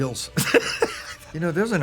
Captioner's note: laughs